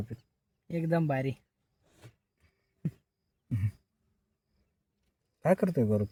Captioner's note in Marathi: घसा साफ करणे